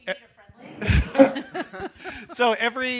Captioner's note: laughter